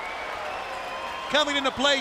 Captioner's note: crowd chatter